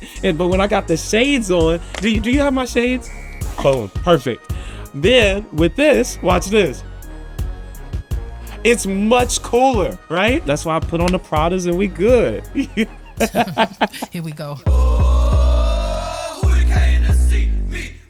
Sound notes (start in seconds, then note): 12.4 laughs